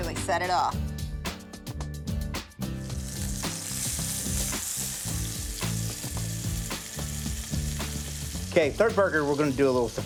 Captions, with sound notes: Really set it off. [SIZZLING] OK, third burger, we're going to do a little surprise.